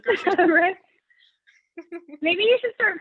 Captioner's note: chuckles